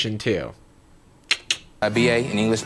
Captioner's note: clicking